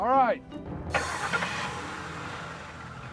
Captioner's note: car starts